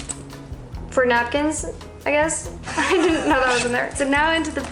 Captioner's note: laughter